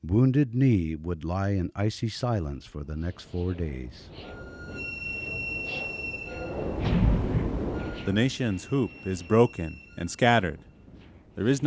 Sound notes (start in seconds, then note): 3.0 tense music; 4.5 wind gusting